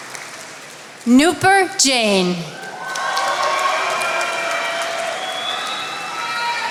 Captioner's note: attendees applauding